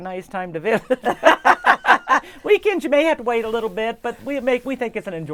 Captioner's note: laughing